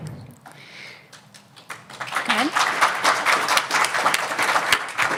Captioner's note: applause